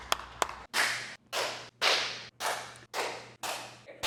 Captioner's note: clapping